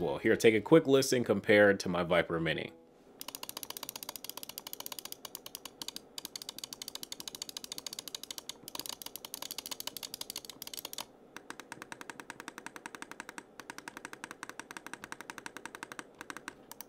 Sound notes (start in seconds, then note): 3.2 mouse clicking